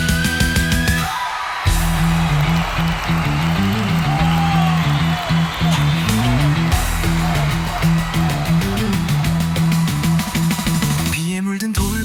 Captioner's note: citizens cheering